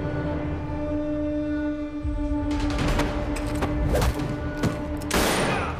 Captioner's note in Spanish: Ruidos de la riña; Disparo